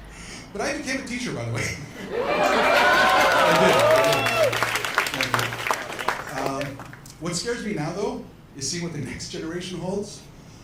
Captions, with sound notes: But I became a teacher, by the way. [Cheers] I did, I did. Thank you. What scares me now, though, is seeing what the next generation holds.